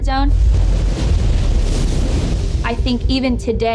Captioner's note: waves crashing